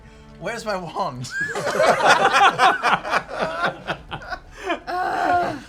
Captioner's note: laughter